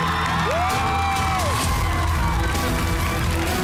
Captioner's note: cheering